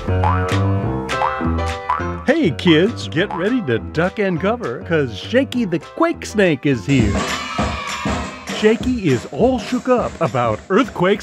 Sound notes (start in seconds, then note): 0.0 Shakey boings; 6.9 children cheer